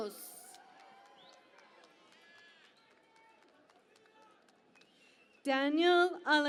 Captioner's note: cheering and Applause